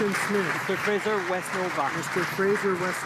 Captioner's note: calling of recorded vote; some Applause